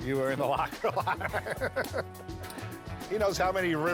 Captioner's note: laughter